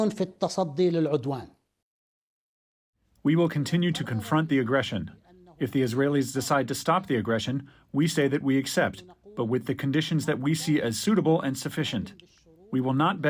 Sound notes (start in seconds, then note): 3.6 through translator